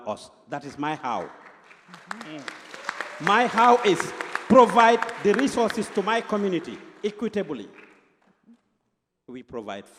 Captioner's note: applause